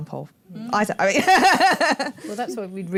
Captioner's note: laughs